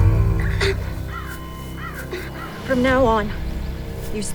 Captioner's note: crow squawking; Elias whimpering